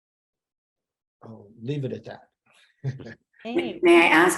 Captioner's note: laughs